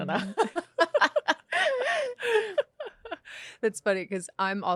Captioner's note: both laughing